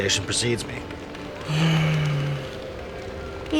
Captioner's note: sigh